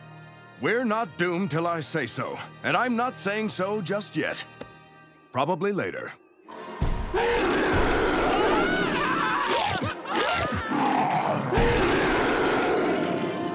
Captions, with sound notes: We're not doomed till I say so, and I'm not saying so just yet. Probably later. [roaring] [screaming] [roaring]